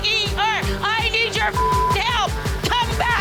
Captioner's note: beep